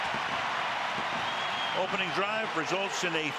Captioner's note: cheering